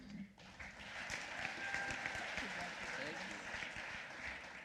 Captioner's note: applause